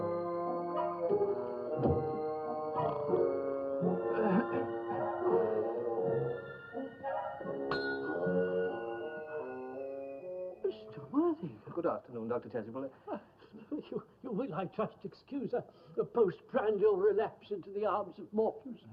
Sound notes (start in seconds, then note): 2.6 snores; 6.1 rings bell